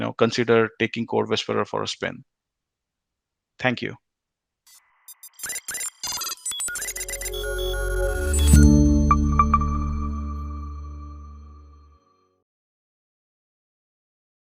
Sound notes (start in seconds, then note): 5.0 machine beeping; 6.8 gentle music